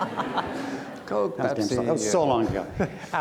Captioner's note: audience laughs